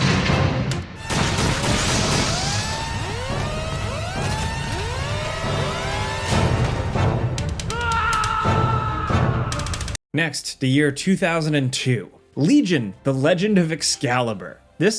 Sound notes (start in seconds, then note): 1.0 guns firing; 3.0 alarm blaring; 7.6 character screaming